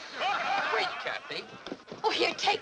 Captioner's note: men laugh